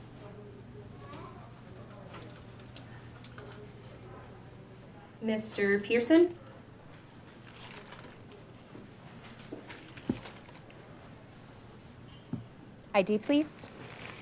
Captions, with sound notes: Mr. Pearson. (bags crinkling) ID, please.